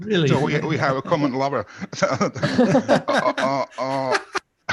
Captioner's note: laughter